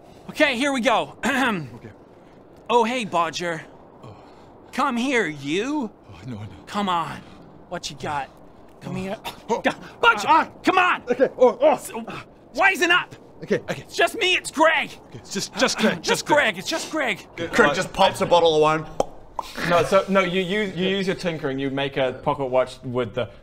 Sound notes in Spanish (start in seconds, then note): 18.9 pop